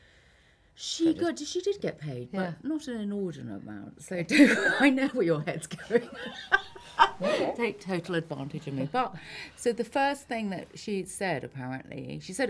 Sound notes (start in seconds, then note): 5.7 laughs